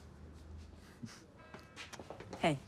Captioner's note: chuckles